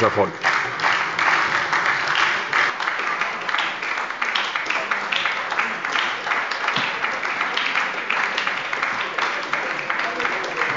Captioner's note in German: Lang anhaltender Beifall bei der SPD